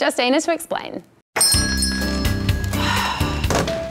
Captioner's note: bell rings; sighs